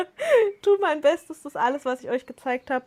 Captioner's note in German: Lachen; schnappt nach Luft